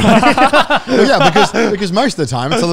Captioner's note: laughs